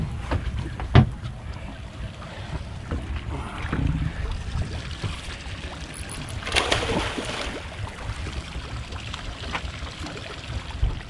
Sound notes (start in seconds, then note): 5.8 reel cranking; 8.2 fish splashing